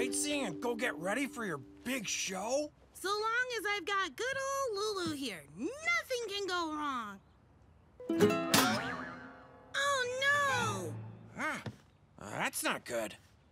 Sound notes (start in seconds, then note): 8.5 boing!